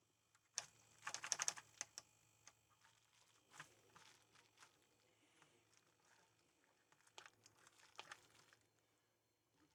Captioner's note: typing